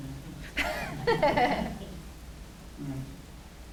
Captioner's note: laughs